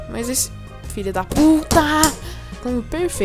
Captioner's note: knocks on chair